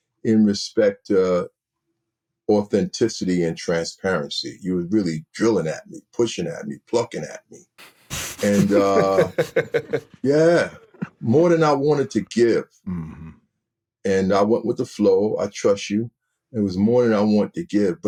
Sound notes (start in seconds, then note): 8.1 everyone chuckling